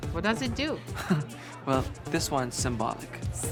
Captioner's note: laughs